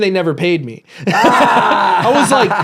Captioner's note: laughs